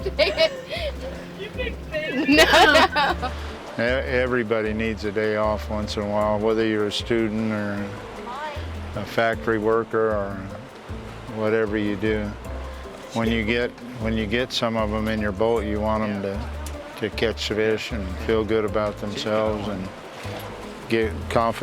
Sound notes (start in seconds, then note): 0.0 laughing